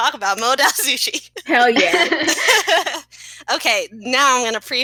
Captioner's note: laughing